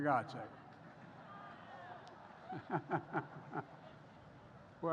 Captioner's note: laughs